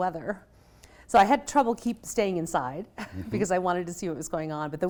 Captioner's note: laughs